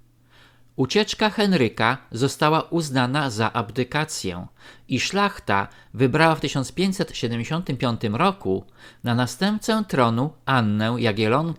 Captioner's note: Lithuanian